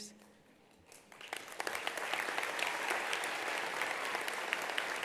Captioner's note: attendees applauding